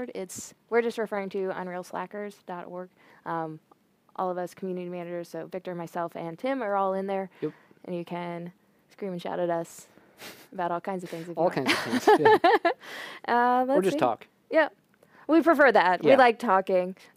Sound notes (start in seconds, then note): 11.6 laughter